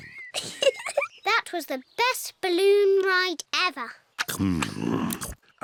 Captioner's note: giggles